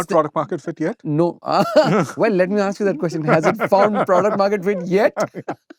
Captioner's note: laughter